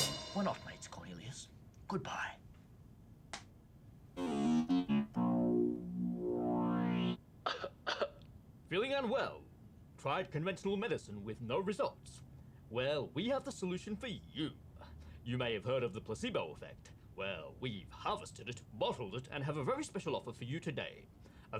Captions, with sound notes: We're not mates, Cornelius. Goodbye. (upbeat music) (cough track playing) Feeling unwell? Tried conventional medicine with no results? Well, we have the solution for you. You may have heard of the placebo effect. Well, we've harvested it, bottled it, and have a very special offer for you today.